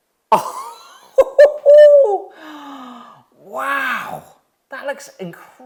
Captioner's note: chuckles excitedly